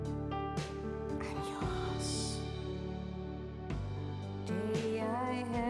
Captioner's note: whispering